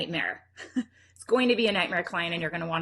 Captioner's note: chuckles